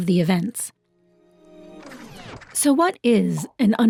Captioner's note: projector rattles